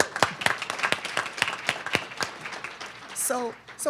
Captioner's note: audience clapping